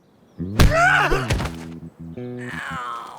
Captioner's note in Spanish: Golpe, Giovanni chilla